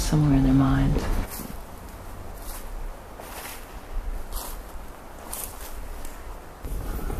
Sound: footsteps

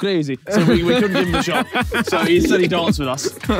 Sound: Vik laughing

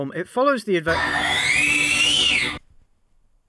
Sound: screeching

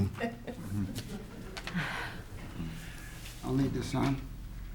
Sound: giggles

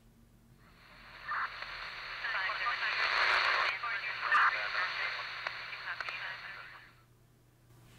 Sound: police radio sounds

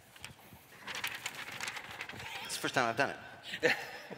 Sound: page Rustling

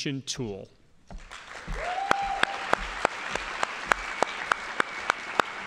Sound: audience applauding

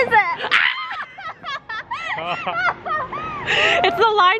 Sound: laughs; screams

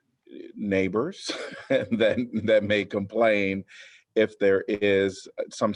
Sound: laughter

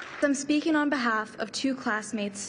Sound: applause

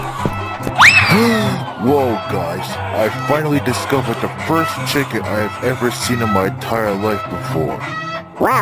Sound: gasps

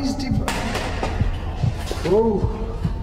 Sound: loud bumping

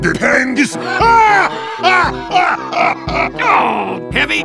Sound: Heavy laughs, Soldier groans

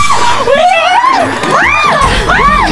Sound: terrified

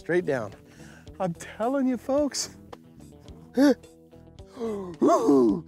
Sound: chuckles

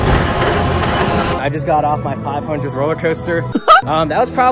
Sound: Mickey Mouse laugh

